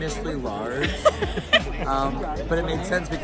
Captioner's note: laughing